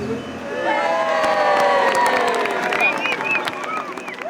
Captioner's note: cheering